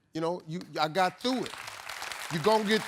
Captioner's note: audience applauding